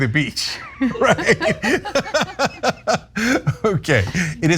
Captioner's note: laugh